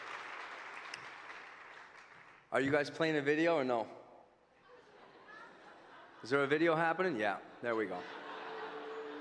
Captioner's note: applause